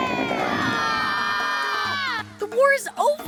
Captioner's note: screaming